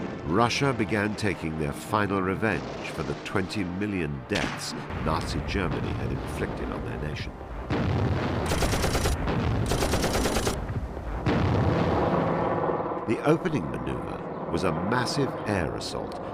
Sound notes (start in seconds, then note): 7.7 guns blasting; 7.9 explosions booming